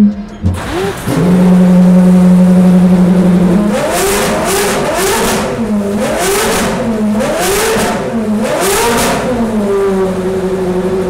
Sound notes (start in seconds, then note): 1.1 car sounds